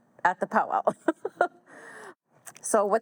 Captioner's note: chuckles